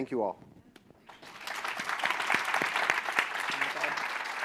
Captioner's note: applause